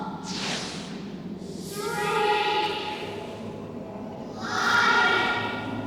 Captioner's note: kids' voices